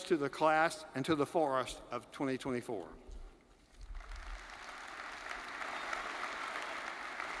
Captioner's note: audience applauding